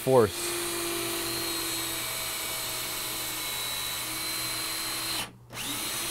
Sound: sound of drill

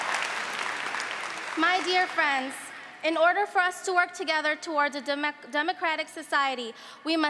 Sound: applause

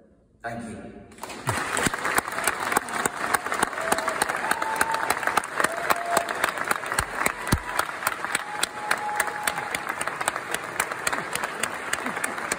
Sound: audience applause

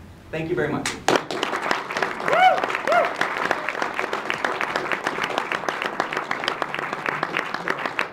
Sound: applause

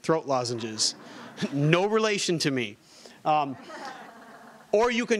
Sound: audience laughing

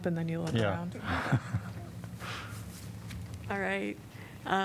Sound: laughter

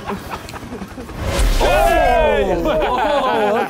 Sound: Sidemen laughing

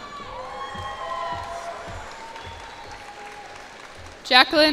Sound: cheers and applause

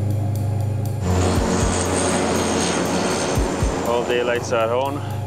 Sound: engine roaring

